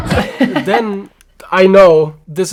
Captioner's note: chuckles